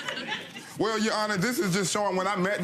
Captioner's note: audience laughing